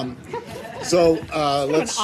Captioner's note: laughter